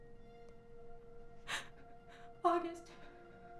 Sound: gasps

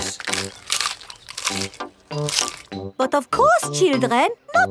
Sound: munching

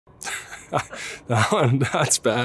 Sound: laughs

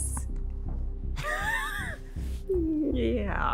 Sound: laughs

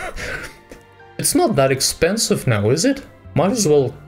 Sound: laughs

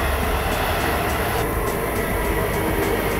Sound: trains whirring

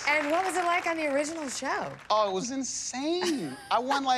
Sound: laughs

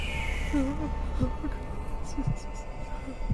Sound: CODY whimpers

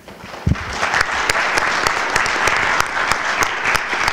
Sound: applause

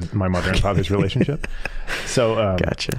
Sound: laughing

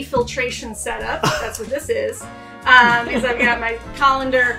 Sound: laughing

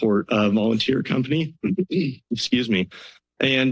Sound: clears throat

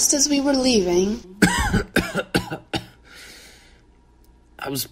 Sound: Baloo coughs

